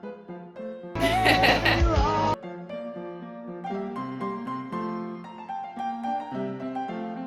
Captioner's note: laughs